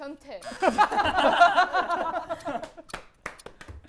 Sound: laughter

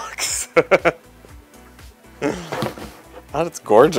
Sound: laughing

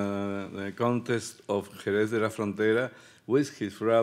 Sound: speaking Spanish

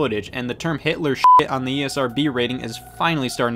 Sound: beep

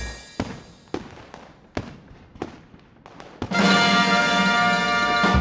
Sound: fireworks

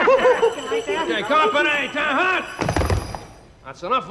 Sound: reindeer laugh; hooves stomp

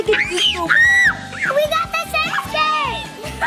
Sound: scream

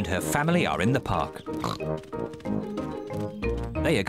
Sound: snorts

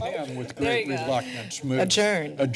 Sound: background chatter

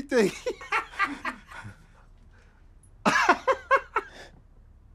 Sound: man laughs

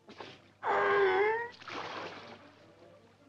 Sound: seal barks and splashes

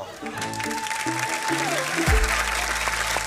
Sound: applause

